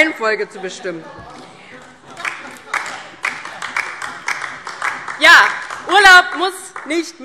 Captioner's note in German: Beifall DIE LINKE